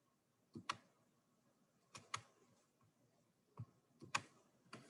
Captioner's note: computer mouse clicking